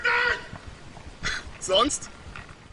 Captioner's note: laughs